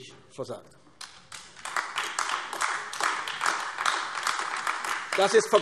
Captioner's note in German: Beifall AfD